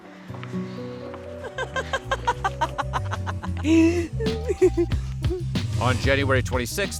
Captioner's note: laughter